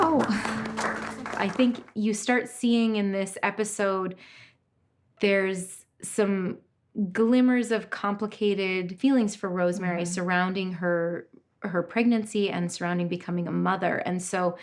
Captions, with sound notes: (all clapping) - Oh. I think you start seeing in this episode, there's some glimmers of complicated feelings for Rosemary surrounding her pregnancy and surrounding becoming a mother.